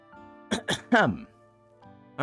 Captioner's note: clears throat